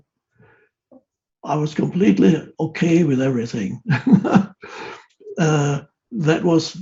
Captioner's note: laughs